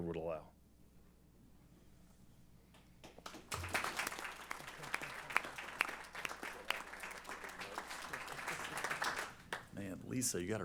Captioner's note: applause